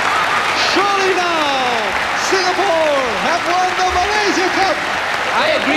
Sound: applause

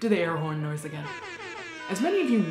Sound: air horn blares

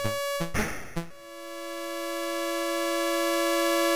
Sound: gun shot

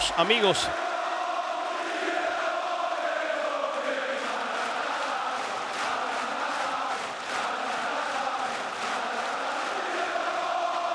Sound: applause

